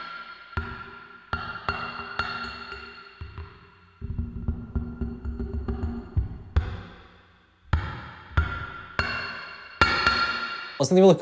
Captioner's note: tapping